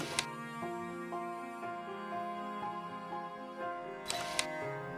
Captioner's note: camera shutter